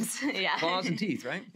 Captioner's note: laughs